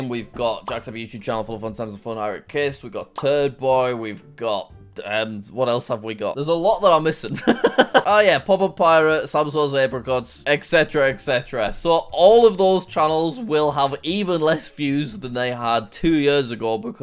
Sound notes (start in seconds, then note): 7.4 laughs